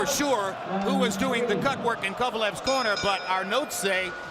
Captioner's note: bell dings